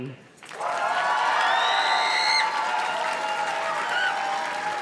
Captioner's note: audience cheers and claps